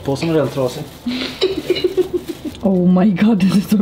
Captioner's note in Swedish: skrattar